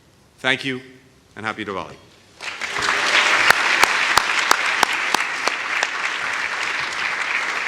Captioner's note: applause